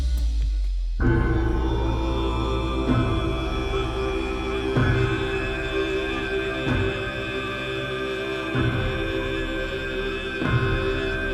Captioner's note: bells clanking and chanting